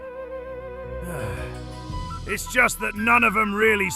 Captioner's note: sighs